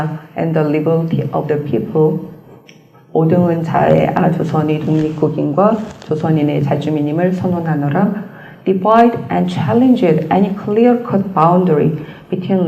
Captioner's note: korean